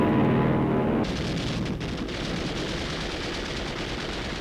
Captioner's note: gunfire